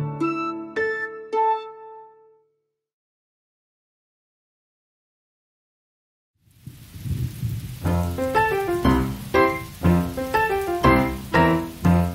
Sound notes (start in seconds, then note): 6.4 raining; 7.8 playful music